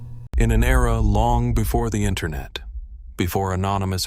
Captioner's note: slow deep cinematic noise